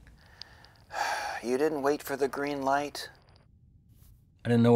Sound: sigh

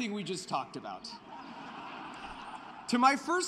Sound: laughter

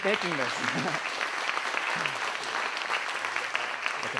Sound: applause

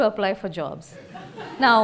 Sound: laughter

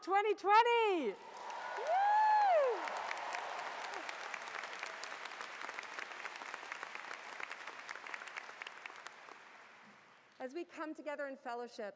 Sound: cheers and Applause

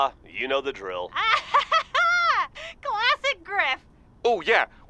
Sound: sister laughs

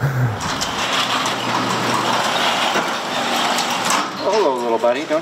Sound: garage door clattering

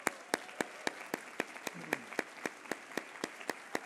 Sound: applause

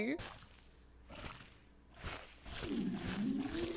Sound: squishing

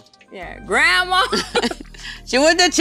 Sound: laughing

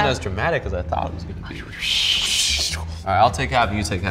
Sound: whooshing

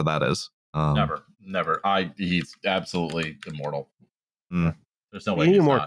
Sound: keyboard tapping

